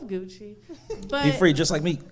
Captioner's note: audience laughing